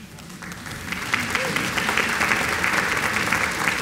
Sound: applause

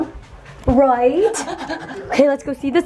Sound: heavy panting

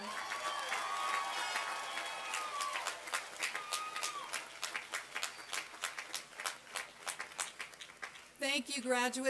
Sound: applause and cheering

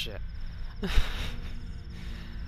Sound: laughs

